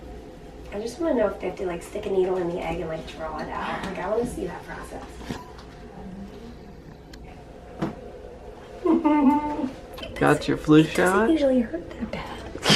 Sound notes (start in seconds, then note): 8.8 giggles